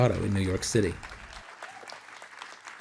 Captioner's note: cheering and applause